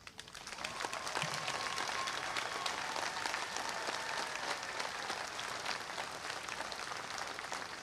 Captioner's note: applause